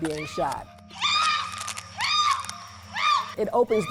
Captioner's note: woman screaming for help